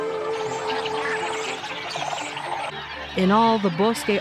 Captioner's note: birds chirping